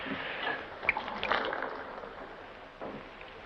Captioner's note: water falling